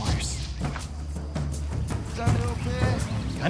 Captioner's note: speaking local language